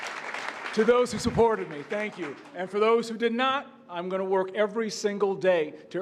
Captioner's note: cheers and applause